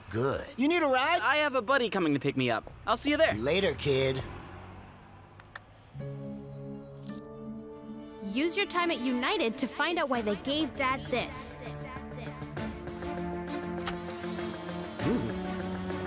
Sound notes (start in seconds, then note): 5.7 mysterious music; 11.6 Nandi's voice echoing; 13.8 whirring